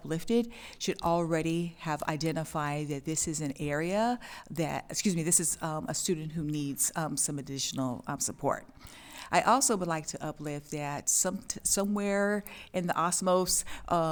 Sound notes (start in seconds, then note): none